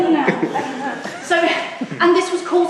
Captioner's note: audience laughs